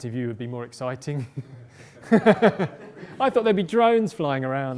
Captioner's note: laughter